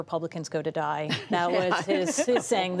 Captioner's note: laughter